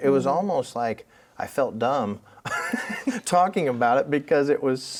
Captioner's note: laughs